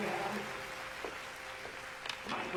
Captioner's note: applause